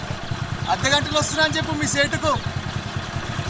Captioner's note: motorbike leaves